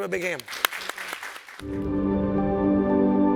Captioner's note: audience applauding; calming music